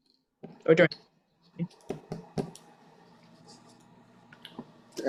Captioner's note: static drowns speaker